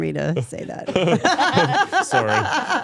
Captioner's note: both laughing